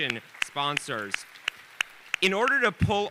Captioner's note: audience applauding